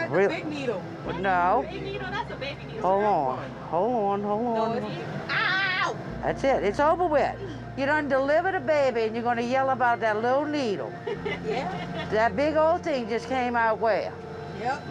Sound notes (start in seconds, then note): 11.0 laughs